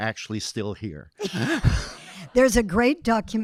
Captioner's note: audience laughing